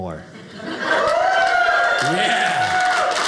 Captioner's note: audience cheering